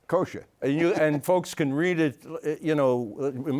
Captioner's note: laughs